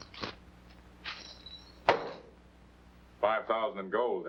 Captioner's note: coins jingling